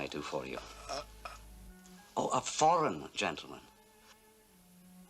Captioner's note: grunts